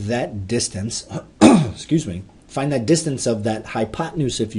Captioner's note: throat clearing